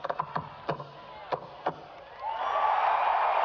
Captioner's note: concludes tap; applause